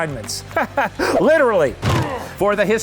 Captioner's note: laughs